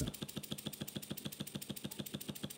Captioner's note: rattling